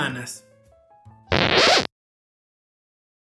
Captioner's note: scratched record